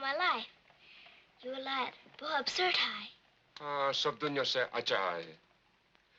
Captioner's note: both speaking in foreign language